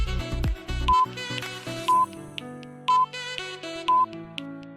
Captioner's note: countdown beeping